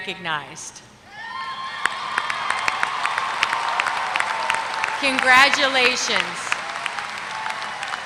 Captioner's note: applause